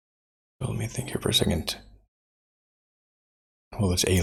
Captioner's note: blank Audio; blank Audio